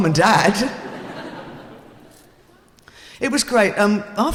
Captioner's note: laughing